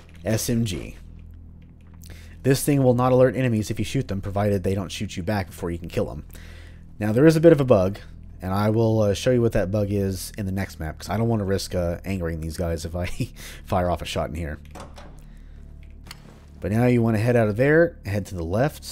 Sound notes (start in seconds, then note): 15.2 chuckle